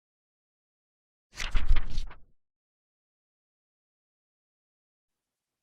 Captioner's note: fluttering Pages